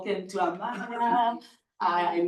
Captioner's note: people chuckling